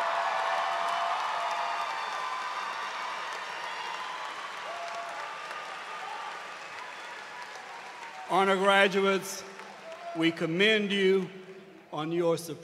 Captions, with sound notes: 70 have received the honors designation of Cum Laude. Will those students please stand. [Cheers and applause]